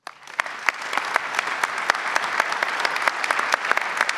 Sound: audience applauds

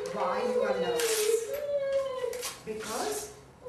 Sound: paper tearing

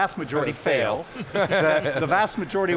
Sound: laughs

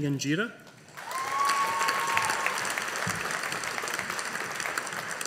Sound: audience applauding

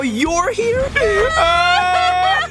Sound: sobbing

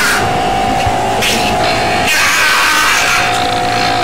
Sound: loud electric hum

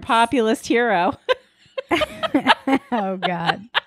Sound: laughing

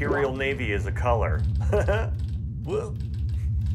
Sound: laughs

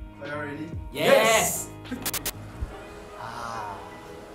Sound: pokes head to create static bzzzz

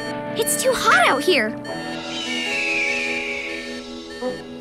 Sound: beeping

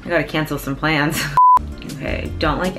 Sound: beeping

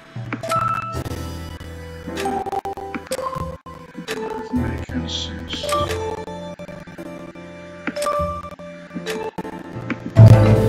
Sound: whispering

